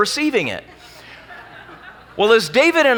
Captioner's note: laughing